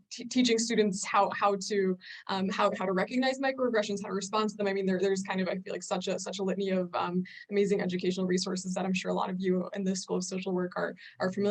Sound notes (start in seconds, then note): none